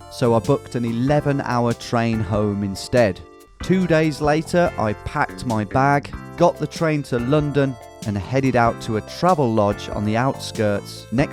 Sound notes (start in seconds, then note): none